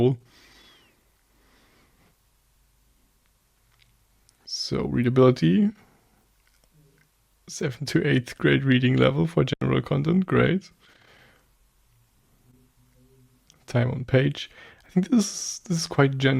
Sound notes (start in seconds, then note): 0.9 pause